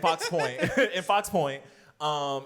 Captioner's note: laughs